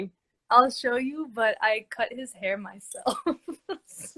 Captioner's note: laughs